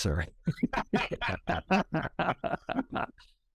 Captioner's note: all chuckles